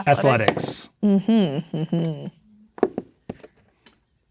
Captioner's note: dice rolling; taps table